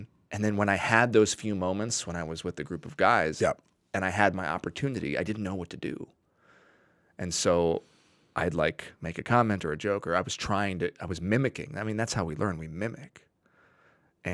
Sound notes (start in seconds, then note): none